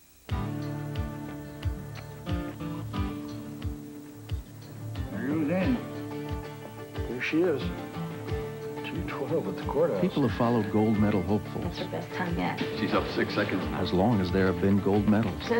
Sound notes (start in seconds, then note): 0.3 acoustic guitar; 11.6 fax noise